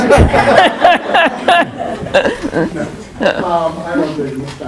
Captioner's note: all laughing